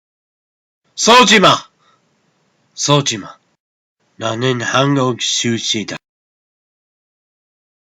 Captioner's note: speaking korean